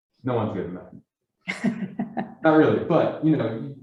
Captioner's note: laughs